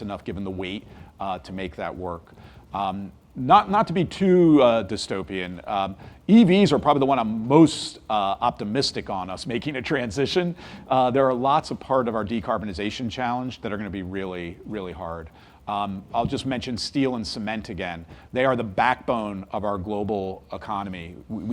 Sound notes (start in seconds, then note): 10.6 laughs